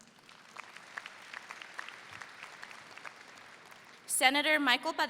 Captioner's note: audience applauds